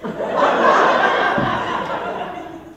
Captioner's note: A burst of laughter